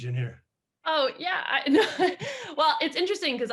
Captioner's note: chuckles